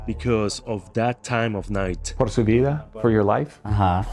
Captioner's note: speaks in Spanish